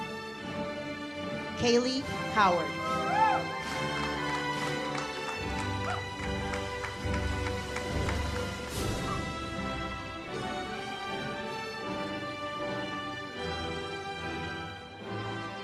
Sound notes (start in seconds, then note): 2.8 audience applauds